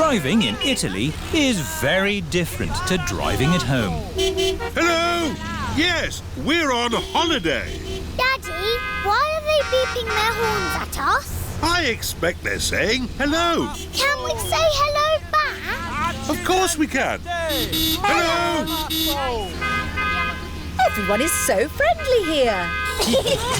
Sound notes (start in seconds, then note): 5.2 horns honking; 18.0 honking; 20.1 italians honk back